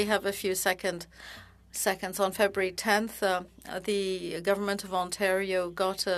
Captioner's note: speaking French